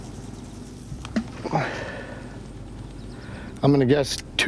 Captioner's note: tool plopping